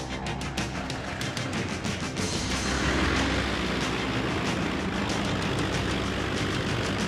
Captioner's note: dramatic music; plane roaring